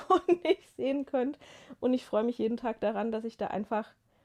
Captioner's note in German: gelächter